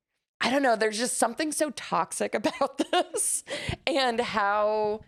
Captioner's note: laughs